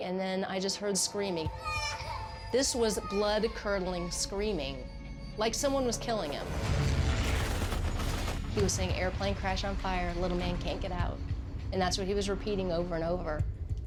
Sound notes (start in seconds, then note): 1.5 crying; 5.8 rumbling